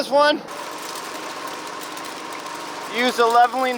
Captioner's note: water splashing